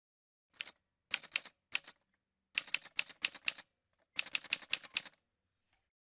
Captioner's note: typewriter sounds